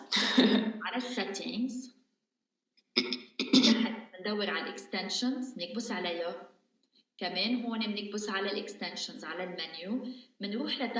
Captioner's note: speaking in arabic